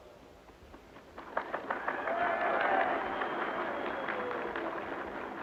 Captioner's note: audience clapping